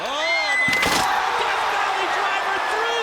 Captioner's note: crowd cheering loudly